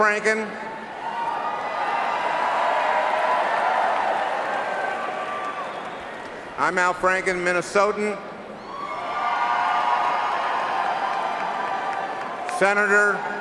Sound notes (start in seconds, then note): 0.8 cheering and applause